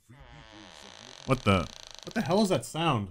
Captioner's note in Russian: Скрип